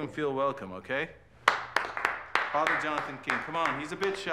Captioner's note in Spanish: aplaudiendo